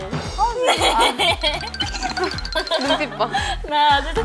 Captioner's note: laughing ><